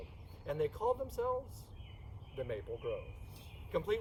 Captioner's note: none